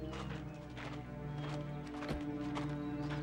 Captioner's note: footstep